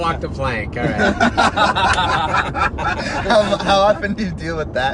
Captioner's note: laughing